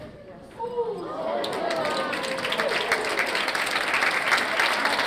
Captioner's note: audience clapping